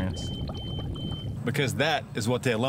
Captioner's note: alarm beeping